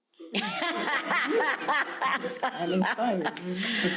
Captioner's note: laughing